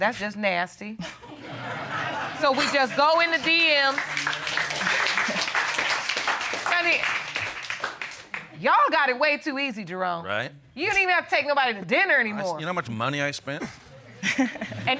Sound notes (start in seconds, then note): 1.4 all laughing; 4.3 audience applauds; 4.3 chuckles; 14.1 chuckling